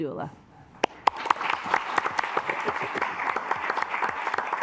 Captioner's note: assembly clapping